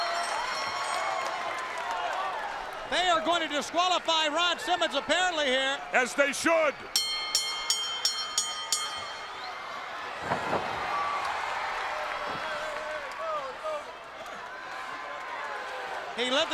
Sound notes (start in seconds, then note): 0.3 crowd cheering; 6.9 bell ringing; 9.3 crowd cheering